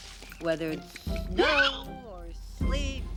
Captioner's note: hiccups